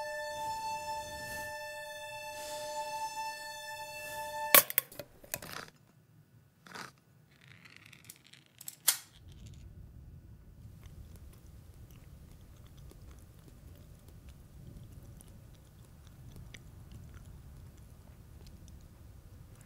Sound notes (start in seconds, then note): 4.0 can clacks; 8.8 wind whistling